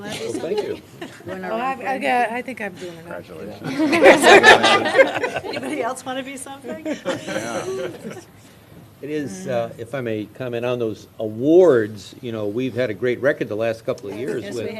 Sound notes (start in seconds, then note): 3.6 laughter